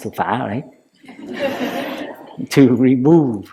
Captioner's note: laughter